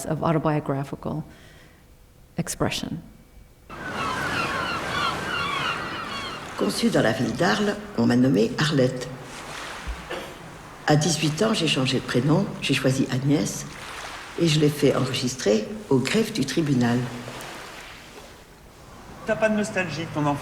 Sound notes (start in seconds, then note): 5.4 speaking french